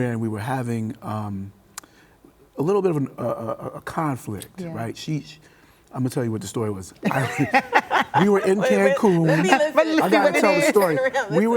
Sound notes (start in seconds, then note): 7.0 group laughs